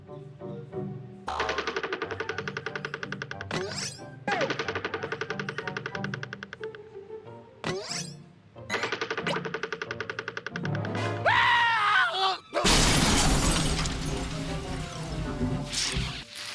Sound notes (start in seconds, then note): 12.6 crash